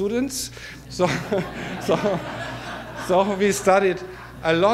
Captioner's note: audience laughter